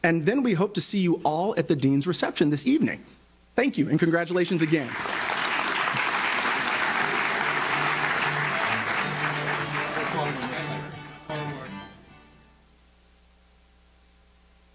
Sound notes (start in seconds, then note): 4.4 audience claps; 9.7 upbeat music